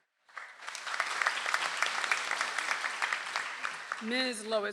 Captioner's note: audience applauds